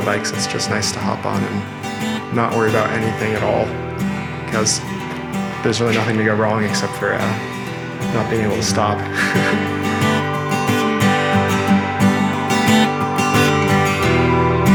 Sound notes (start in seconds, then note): 9.0 laughing